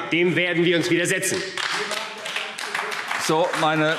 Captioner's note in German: Beifall AfD – Zuruf: Sie machen das ganz bewusst!